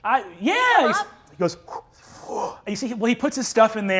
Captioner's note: gasps